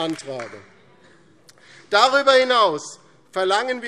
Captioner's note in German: Beifall DIE LINKE